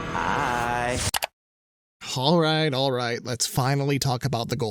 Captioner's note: mouse clicks